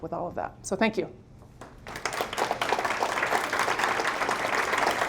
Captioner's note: applause